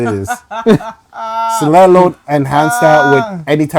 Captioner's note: laughing